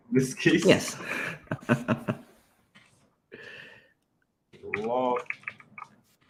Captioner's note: chuckles